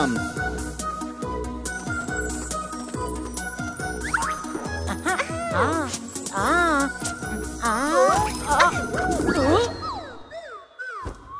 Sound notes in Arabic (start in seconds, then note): 0.3 موسيقى مرحة; 4.7 صوت مرح; 6.0 رنين; 7.3 صوت استغراب